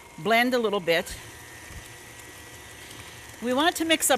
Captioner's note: mixer whirring